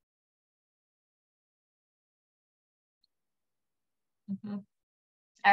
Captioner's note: silence